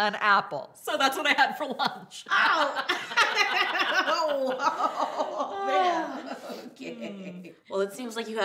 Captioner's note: laughs